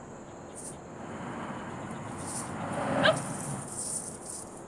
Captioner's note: none